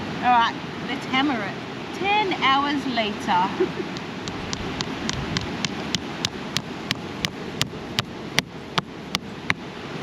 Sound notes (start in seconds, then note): 3.4 laughs; 7.5 hammering